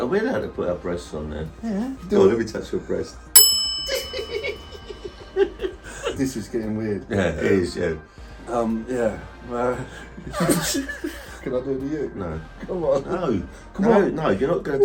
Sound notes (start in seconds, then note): 3.3 bell pinging; 4.0 both giggling; 10.2 both laughing